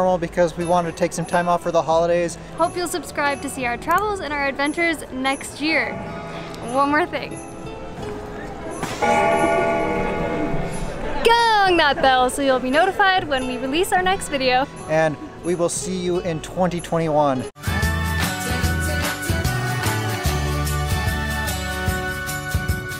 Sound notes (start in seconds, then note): 8.6 bell tolls; 8.8 fist crashes; 17.8 upbeat music